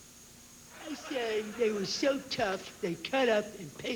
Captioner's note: imitating tough guy